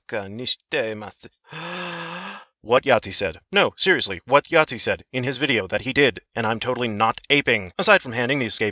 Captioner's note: breathe in